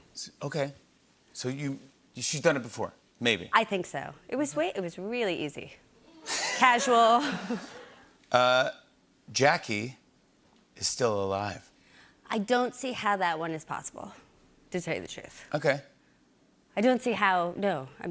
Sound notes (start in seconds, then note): 6.3 laughter